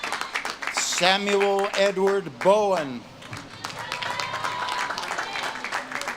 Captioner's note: audience claps and cheers